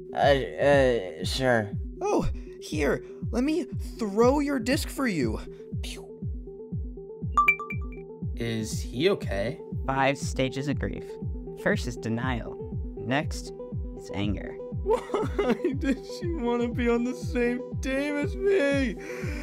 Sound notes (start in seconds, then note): 7.4 ding; 14.3 sobbing; 18.7 inhale